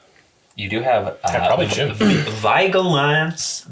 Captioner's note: butchering pronunciation